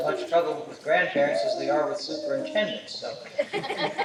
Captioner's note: laughter